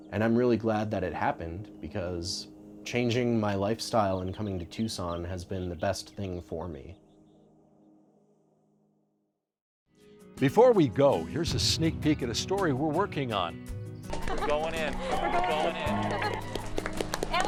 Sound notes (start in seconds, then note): 15.8 woman chuckling nervously